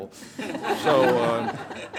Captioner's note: everyone laughs